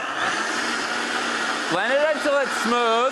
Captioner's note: grinding